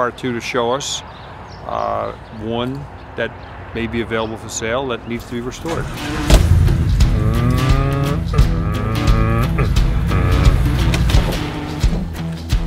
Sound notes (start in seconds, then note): 5.2 car engine; 5.8 lively rock music